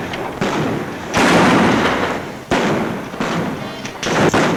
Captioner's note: guns bang